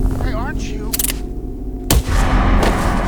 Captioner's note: club clicking; thudding